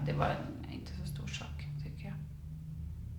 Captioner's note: car passes